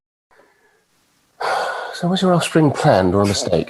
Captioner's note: sighing